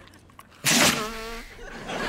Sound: blowing

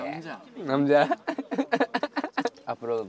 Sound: laughing

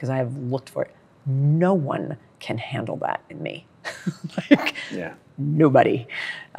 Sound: laughs

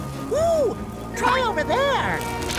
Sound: none

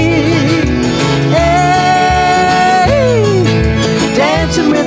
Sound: yelling

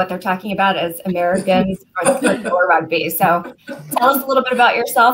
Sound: laughter

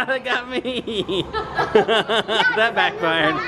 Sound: laughs

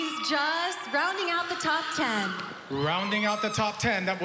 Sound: cheering

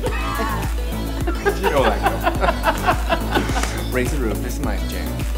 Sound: laughing

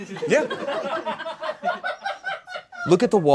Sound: audience laughs

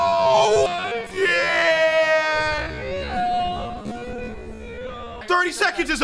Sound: slowed down noises

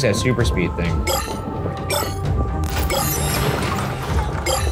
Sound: shards bleeping

